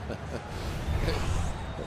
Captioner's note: laughs